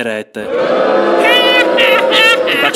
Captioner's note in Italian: Folla che Urla